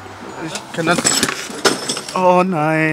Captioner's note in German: Klirren